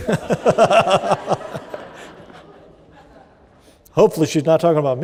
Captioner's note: laughter